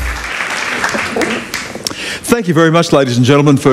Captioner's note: applause